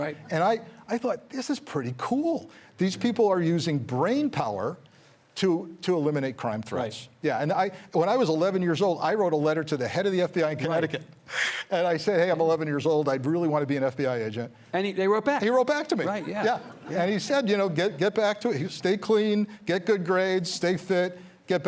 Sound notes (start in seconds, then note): 16.5 audience chuckles